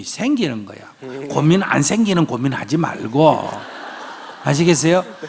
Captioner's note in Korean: 청중 웃음